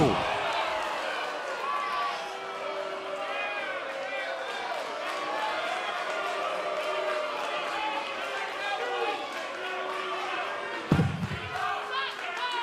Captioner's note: crowd cheering